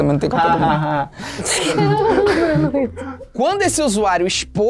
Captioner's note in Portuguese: risadas